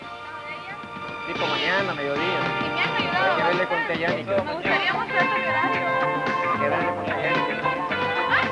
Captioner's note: interposing voices speaking Spanish